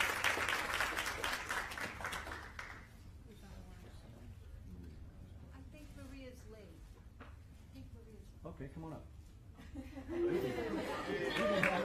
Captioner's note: applause